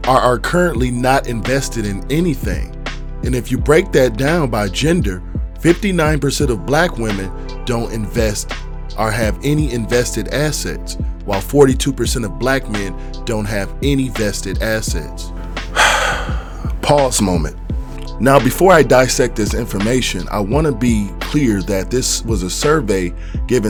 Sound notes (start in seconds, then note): 15.5 sighs